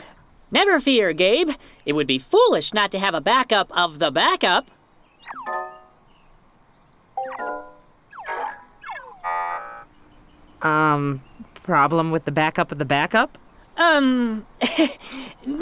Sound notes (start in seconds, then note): 5.4 electronic noises; 14.6 laughs nervously